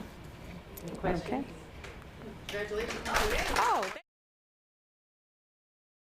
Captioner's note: clapping